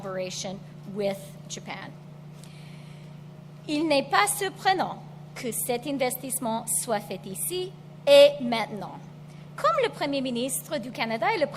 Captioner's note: speaks French